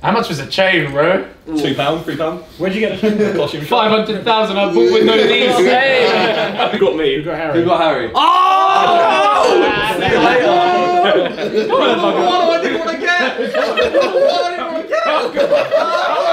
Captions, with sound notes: - How much was the chain? - Two pound, three pound. - Where'd you get. - 500,000 up with Monnise, hey. - Have you got me? - You've got Harry. (shouts) (all laugh)